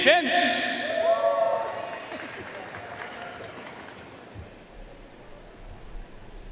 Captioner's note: audience cheering and applauding